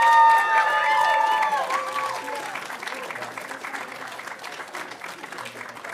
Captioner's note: audience cheering and applauding